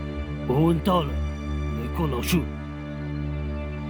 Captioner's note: Mandarin